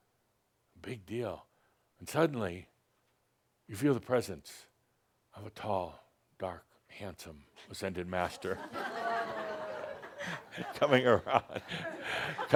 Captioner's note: laughter